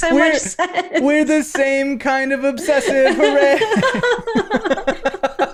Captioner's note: laughter